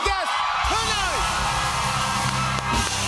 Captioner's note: cheers and applause